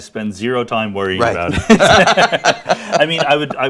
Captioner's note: laughs; laughing